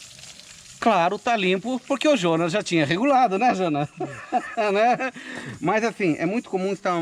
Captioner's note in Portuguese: risos